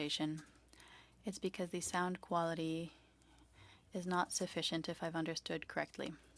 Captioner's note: speaking French